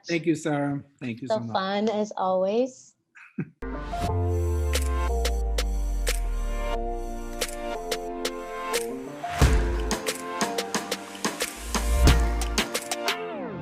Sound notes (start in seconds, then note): 3.2 chuckles; 3.6 upbeat music